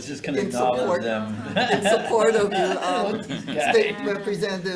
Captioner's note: laughing